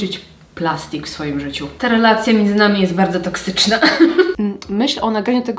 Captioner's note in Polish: śmiech